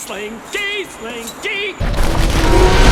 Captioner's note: Rex Roars